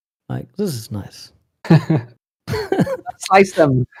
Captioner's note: laughter